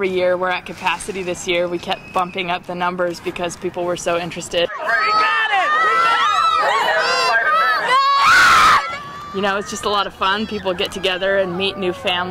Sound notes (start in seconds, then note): 4.6 kids talking and cheering; 8.1 kids cheering